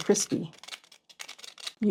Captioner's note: crispy sound